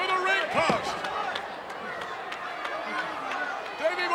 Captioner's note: crowd yelling